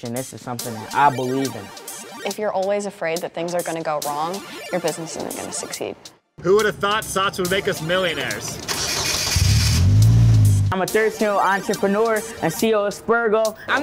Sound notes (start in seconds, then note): 8.5 car engine starts